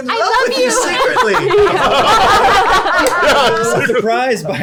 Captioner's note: laughter